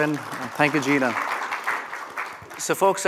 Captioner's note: applause